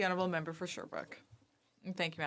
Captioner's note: speaking French